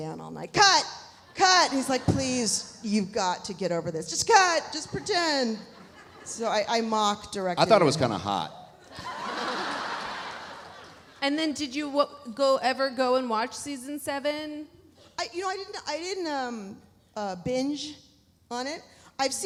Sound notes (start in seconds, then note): 8.8 audience laughs; 9.4 audience applauding